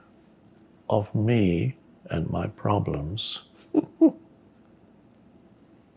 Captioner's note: laughs